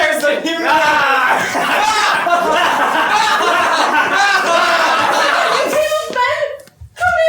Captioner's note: PISTOL and NYM laugh